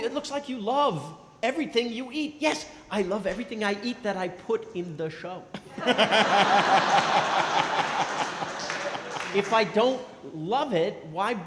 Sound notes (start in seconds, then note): 5.6 & crowd laughing